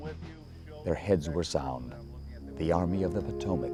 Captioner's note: voiceover